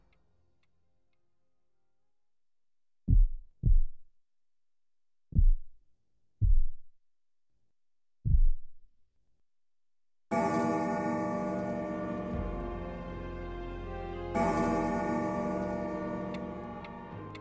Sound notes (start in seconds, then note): 2.6 heartbeat slowing down; 9.8 clock chiming